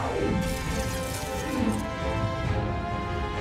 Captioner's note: laser gunshot shoots